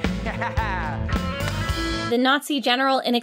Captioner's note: laughing